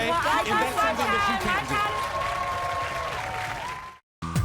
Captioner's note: crowd cheering